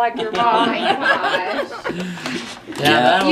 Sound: all laugh

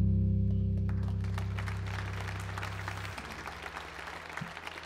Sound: audience applauds

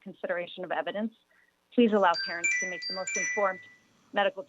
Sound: chime

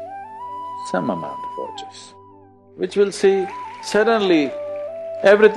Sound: applause

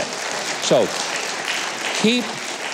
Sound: audience applauding

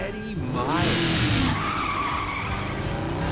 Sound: car engine revving; screeching tires

